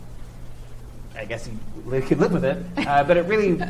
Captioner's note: chuckles